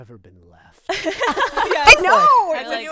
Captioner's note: group laughing